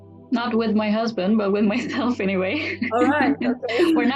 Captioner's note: laughs